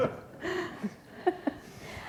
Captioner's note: laughter